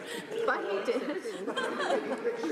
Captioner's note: laughter